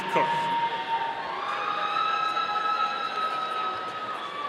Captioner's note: audience cheering